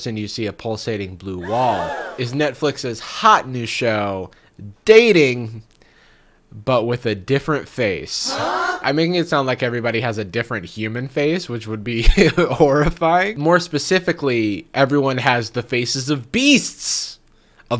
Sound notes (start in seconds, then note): 1.4 crowd gasping; 8.2 crowd